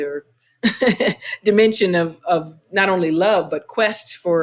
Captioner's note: laughter